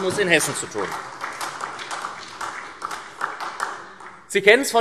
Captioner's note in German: Beifall SPD